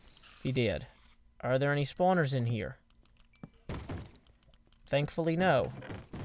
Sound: bang bang

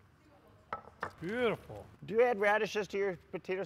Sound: bowl thuds

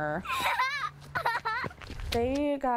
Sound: laughing

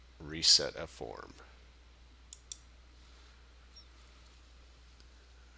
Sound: sound of mouse clicking

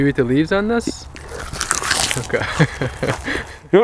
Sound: munching sounds

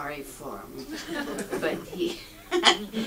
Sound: audience laughs

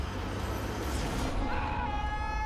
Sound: screaming

